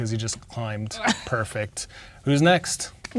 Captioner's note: chuckles